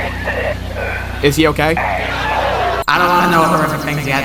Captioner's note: laugh track